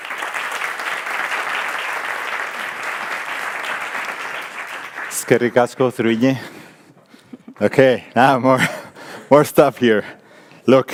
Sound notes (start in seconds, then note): 0.0 audience applauding; 5.5 speaking in foreign language